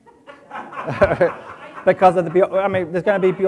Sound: audience laughs

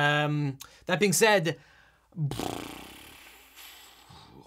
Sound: sighs

